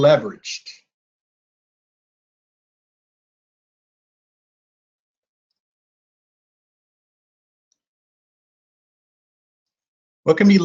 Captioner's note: silence